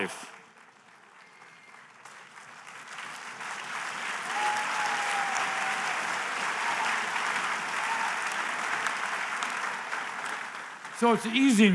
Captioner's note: applause